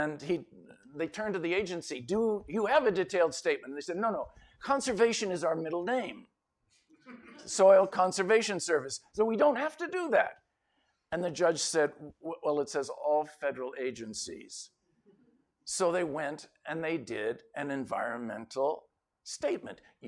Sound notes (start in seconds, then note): 7.0 laughter